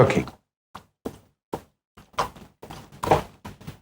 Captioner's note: footsteps